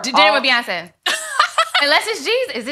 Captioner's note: laughs